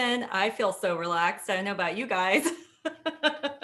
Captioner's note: laughs